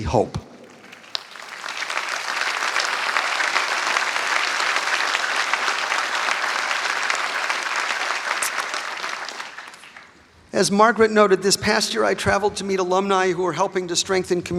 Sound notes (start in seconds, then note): 5.3 applause